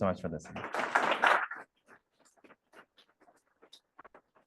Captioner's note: applause